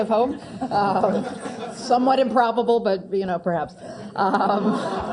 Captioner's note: laugh